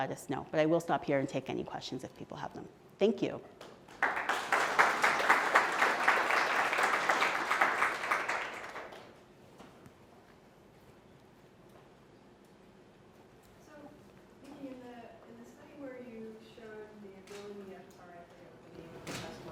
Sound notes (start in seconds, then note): 3.8 applause